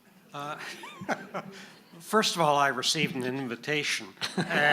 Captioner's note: laughs; audience laughing